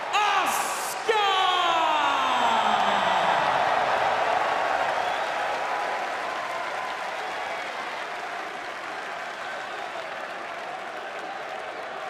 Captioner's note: crowd cheering